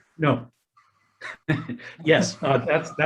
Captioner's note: laughs